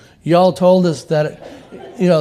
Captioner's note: laughter